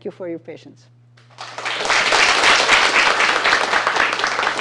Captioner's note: applause